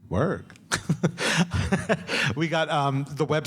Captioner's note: laughs